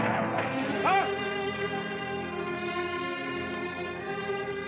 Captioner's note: Sitting Bull mumbles